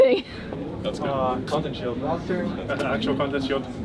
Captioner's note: laughs; laughs